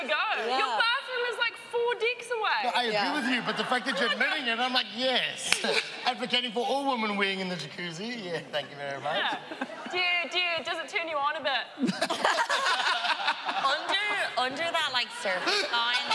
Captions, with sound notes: Your bathroom is, like, four decks away. I agree with you. But the fact that you're admitting it, I'm like, "Yes." Advocating for all women weeing in the Jacuzzi. -Thank you very much. -Yeah. Do you-- do you-- does it turn you on a bit? [laughing] Under--- under that, like, surfer guy, there is,